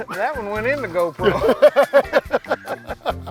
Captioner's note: laughter